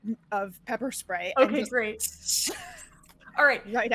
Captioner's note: hissing